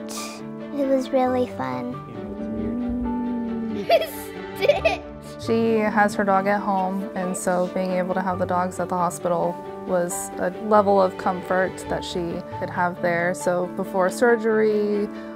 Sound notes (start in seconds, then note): 2.0 dog growl; 4.5 laughter